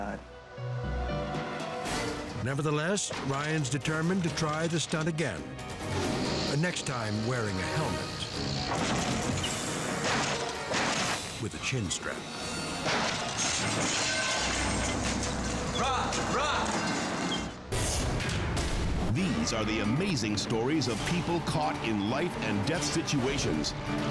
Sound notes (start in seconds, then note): 0.2 pensive music; 9.8 loud thud; 16.9 tense music